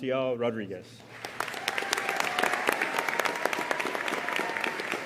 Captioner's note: audience applauding